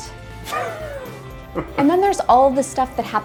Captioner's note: laughs